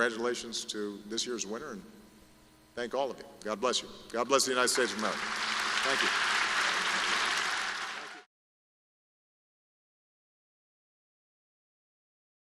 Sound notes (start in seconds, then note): 4.7 applause